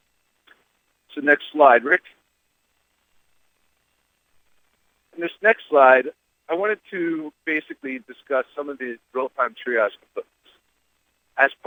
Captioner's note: audio break